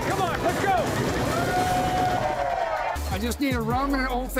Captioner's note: cheering